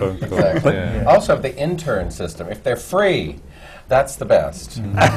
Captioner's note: laughter